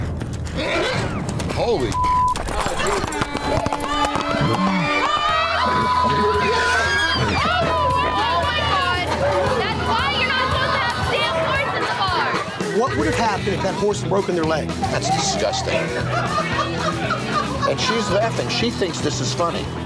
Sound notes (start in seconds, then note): 3.4 chatter; 5.8 shouting